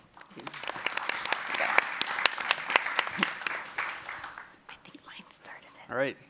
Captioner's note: applause